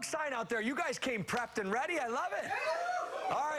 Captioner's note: cheers and applause